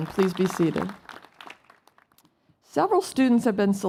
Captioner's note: applause